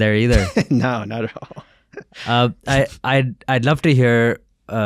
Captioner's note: laughing